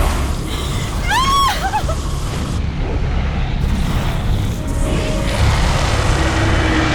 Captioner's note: Connie screams; fire blazes; dragon roars